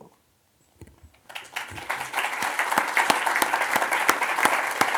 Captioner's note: audience applauds